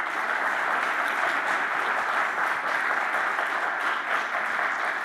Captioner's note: audience applauding